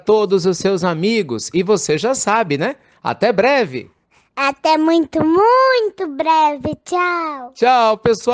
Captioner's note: child's voice